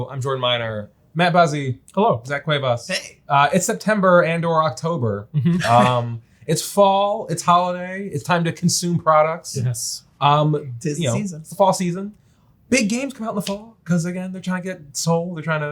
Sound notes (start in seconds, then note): 5.4 chuckles